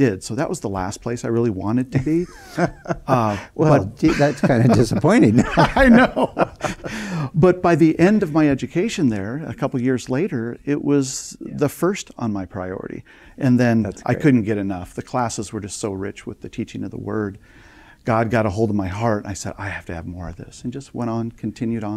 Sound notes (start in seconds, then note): 4.9 laughing